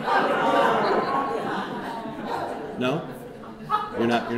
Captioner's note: audience laughing